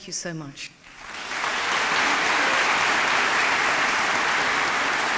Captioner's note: audience applauding